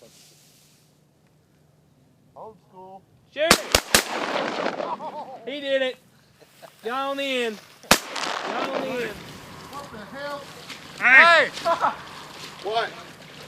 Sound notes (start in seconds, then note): 1.4 gunshots